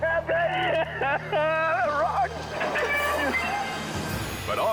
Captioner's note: friends laughing